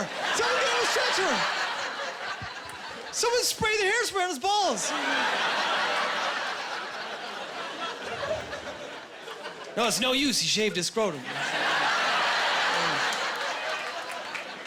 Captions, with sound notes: "Someone get him a stretcher! "Someone spray their hairspray on his balls!" (Laughing and applause) No, it’s no use. He shaved his scrotum. (Laughing)